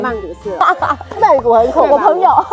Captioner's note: laughs